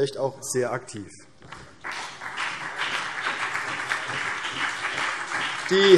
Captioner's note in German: Vereinzelter Beifall CDU und BÜNDNIS 90/DIE GRÜNEN